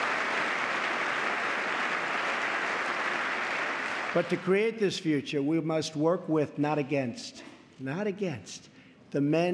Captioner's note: applause